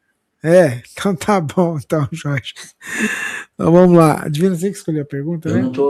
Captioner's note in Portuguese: risadas